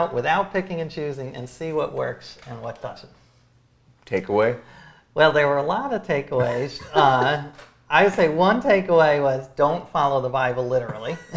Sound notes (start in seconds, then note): 6.4 laughs